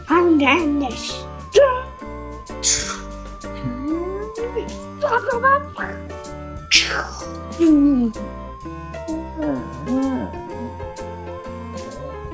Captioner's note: and even more battle sounds